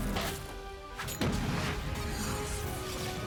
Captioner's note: explosion